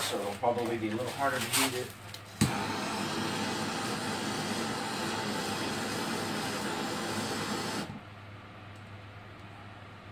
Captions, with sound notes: so it'll probably be a little harder to heat it. (flame whirring)